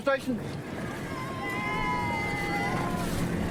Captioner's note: cheers